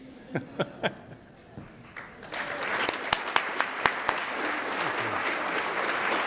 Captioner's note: chuckles; attendees applaud